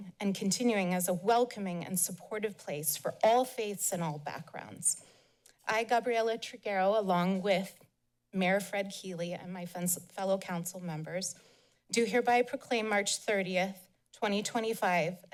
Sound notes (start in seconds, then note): none